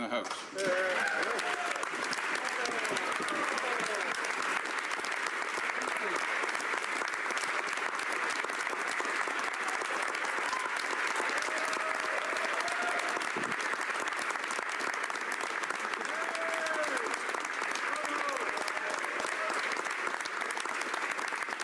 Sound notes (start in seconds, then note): 5.5 applause